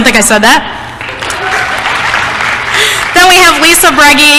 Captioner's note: applause